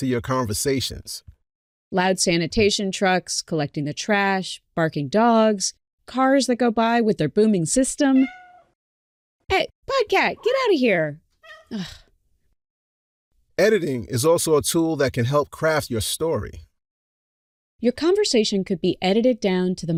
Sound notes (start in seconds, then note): 8.4 PODCat cries; 11.4 trill-meows; 12.7 annoyed sigh